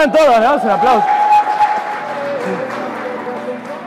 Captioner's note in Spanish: aplausos